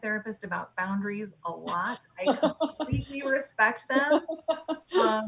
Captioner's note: loud laughs